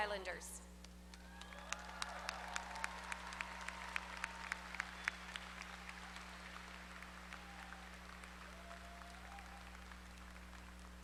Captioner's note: applause